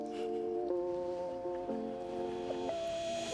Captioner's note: both laughing